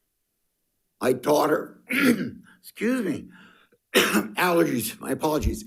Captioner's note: coughs